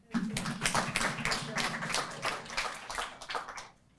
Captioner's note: applause